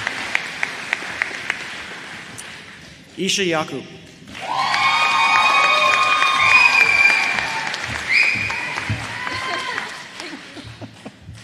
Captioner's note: applause